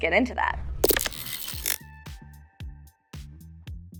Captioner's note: text whirring